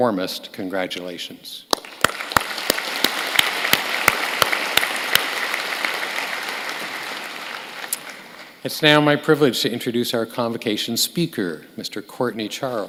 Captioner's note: applause